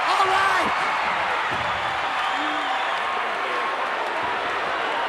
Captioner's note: crowd yelling